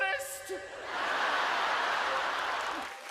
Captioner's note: laughter